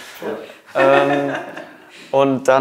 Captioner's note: lacht